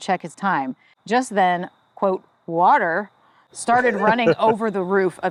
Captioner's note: laughs